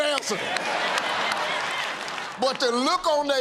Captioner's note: laughter